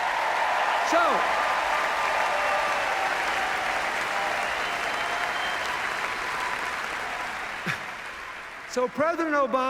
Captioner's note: cheers, applause